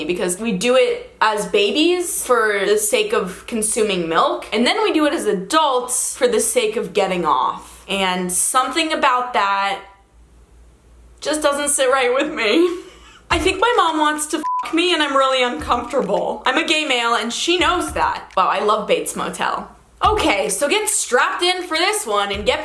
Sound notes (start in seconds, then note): 14.4 beep